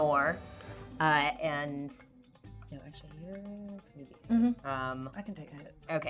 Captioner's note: talks quietly